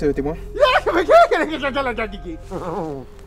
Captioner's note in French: Rire de psychopathe